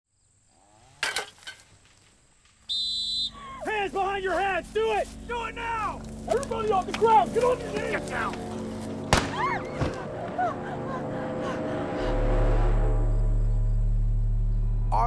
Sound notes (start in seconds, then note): 1.0 shovel clanks; 2.6 whistle blowing; 9.0 guns fires; 9.2 screaming; 12.5 ominous music